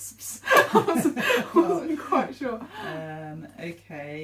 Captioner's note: laughing